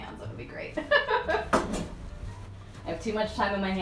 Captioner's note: laughs